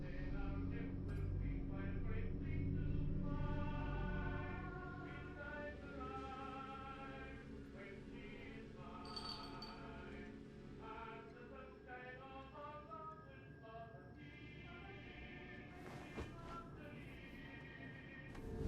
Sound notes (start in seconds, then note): 9.0 chain rattling gently